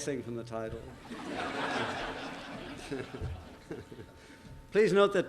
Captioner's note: laughter